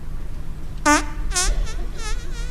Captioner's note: farting noises